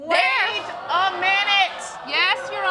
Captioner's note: audience exclaim